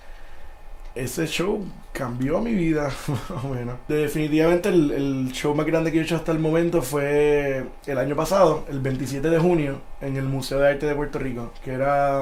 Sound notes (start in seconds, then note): 3.0 laughs